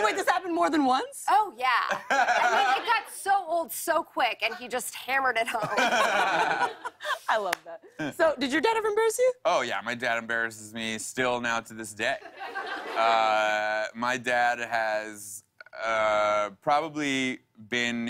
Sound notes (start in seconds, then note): 5.4 laughter; 12.2 laughter